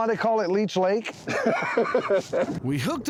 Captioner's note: laughing